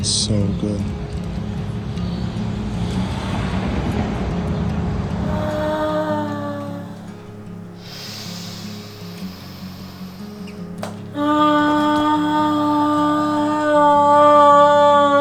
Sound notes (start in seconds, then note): 6.0 moaning softly